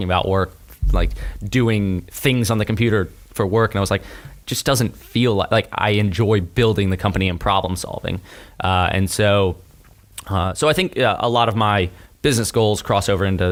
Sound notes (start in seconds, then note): none